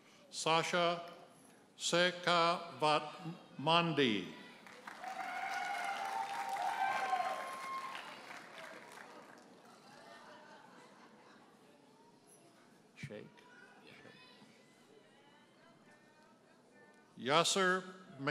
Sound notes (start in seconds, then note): 4.6 audience cheers and applauds